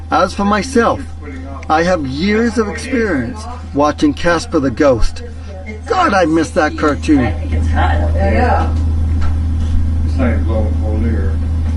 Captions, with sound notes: As for myself, I have years of experience watching Casper the ghost. God, I miss that cartoon. (group murmuring)